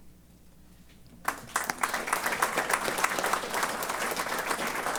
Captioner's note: applause